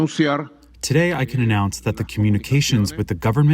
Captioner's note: through translator